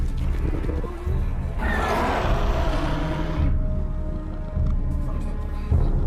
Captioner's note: roaring